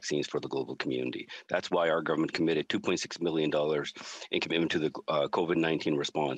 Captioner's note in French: voix de l'interprète